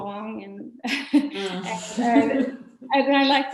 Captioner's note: laughing